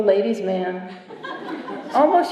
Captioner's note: laughter